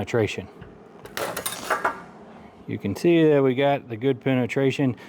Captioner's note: clattering